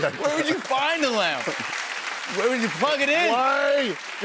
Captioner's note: laughter and applause